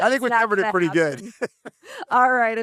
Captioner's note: laughter